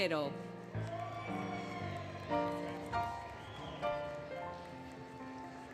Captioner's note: applause, Cheering, Music